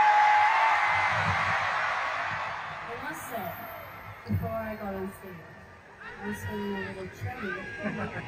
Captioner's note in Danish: Bifald